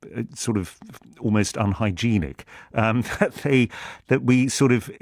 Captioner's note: chuckles